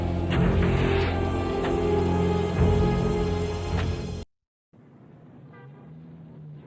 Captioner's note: dramatic music; engine whining; door thuds; vehicles humming; horns honks